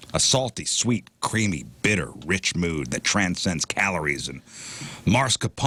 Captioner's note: none